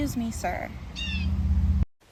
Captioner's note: bird continues cawing